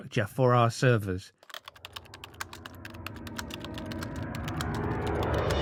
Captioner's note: typewriter sounds